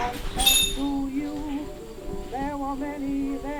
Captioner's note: radio playing continues